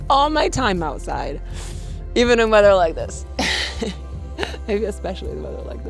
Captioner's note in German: lacht